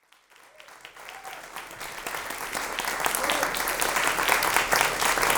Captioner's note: audience cheers and applauds